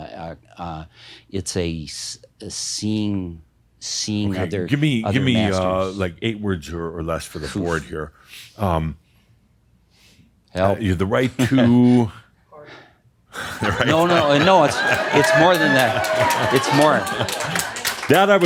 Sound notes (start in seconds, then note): 11.4 he chuckles; 13.4 someone says “Fart” and much laughter and some applause